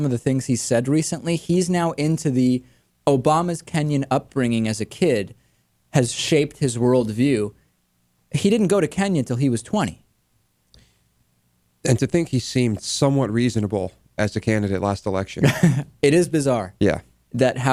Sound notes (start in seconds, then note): 15.4 laughs